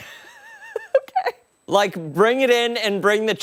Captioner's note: laughter